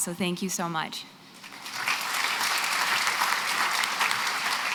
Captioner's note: applause